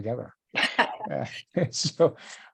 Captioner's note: chuckles